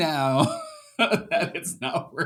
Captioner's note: laughs